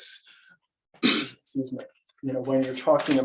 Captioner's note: clearing throat